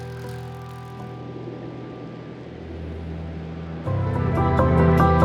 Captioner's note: low hum of traffic; music becomes more dramatic